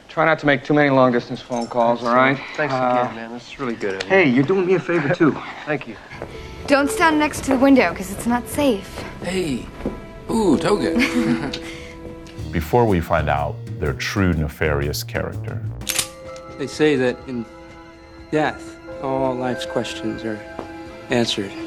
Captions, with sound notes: - Try not to make too many long distance phone calls. - All right, thanks again, man, this is really good. - Hey, you're doing me a favor too. - Thank you. - Don't stand next to the window 'cause it's not safe. - Hey oh, toga. [both laughing] - Before we find out their true nefarious character. [gun cocking] - They say that in death, all life's questions are answered.